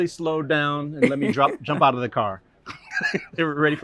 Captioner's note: laughter